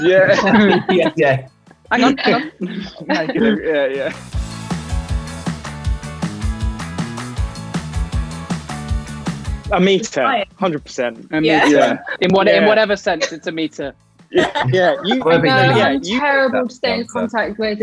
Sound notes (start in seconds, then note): 4.8 upbeat music; 14.6 all chattering